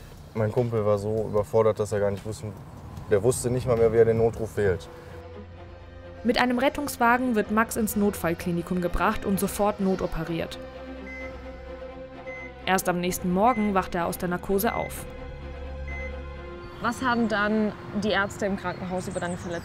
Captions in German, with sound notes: Mein Kumpel war so überfordert, dass er gar nicht wusste, der wusste nicht mal mehr, wie er den Notruf wählt. Mit einem Rettungswagen wird Max ins Notfallklinikum gebracht und sofort notoperiert. (Pieptöne) Erst am nächsten Morgen wacht er aus der Narkose auf. (Dramatische Musik) Was haben dann die Ärzte im Kranken- haus über deine Verletzung erzählt?